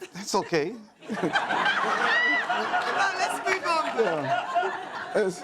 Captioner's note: and audience laughs